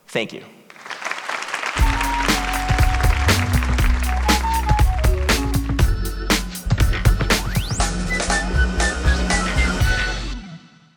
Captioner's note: applause